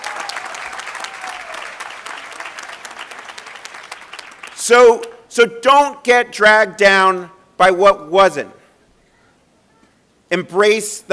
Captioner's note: applause